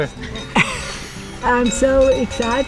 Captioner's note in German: lacht